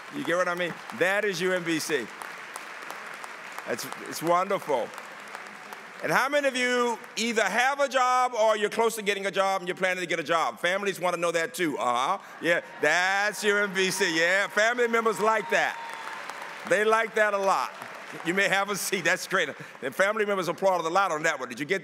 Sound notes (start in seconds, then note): 0.0 applause; 15.7 applause